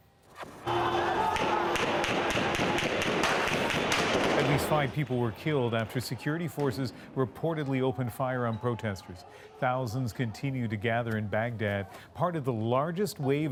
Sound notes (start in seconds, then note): 5.3 gunshots